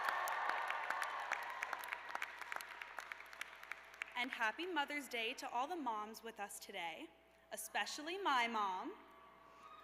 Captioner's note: cheers and applause